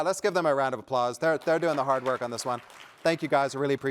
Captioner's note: applause